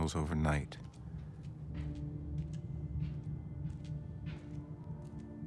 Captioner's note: feet pattering